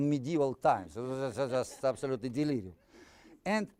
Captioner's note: audience laughing